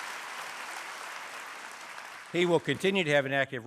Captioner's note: cheering & applause